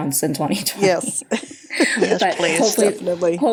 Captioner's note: laughter